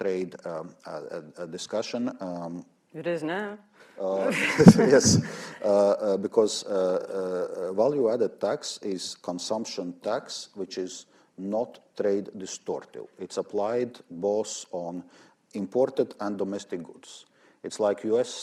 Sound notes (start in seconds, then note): 4.1 laughter